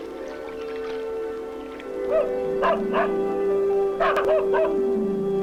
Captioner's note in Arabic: رش الماء; نباح الكلب